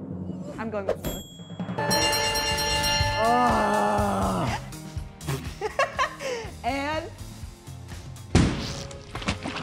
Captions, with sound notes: I'm going with mullets. [bells ringing] [groaning] [laughing] And...